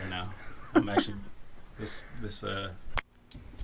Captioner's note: laughing